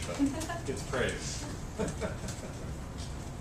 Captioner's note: laugh; laugh